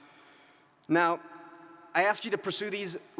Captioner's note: none